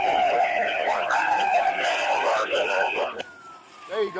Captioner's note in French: sirènes hurlantes